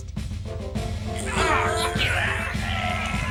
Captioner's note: all grunting